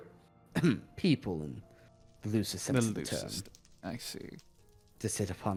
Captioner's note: ahem